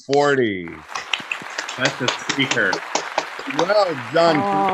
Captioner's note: clapping